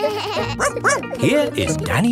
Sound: both laughing; barking

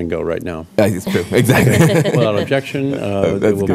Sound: laughter

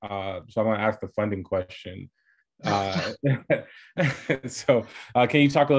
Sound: laughs

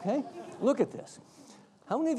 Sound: audience laughs

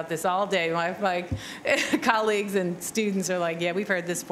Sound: chuckles

